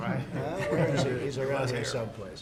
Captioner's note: laughter